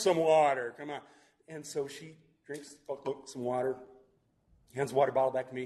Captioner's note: glugs